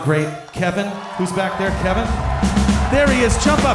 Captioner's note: crowd Cheers